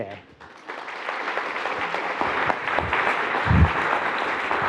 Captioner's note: attendees applauding